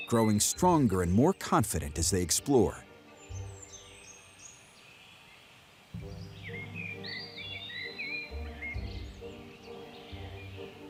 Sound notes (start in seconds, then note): 6.0 birdsong